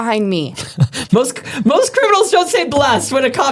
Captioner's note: laughing